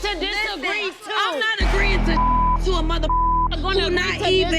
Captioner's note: beep